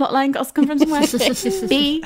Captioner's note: laughing